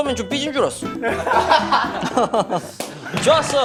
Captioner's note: laughing